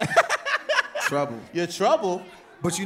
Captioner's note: laughs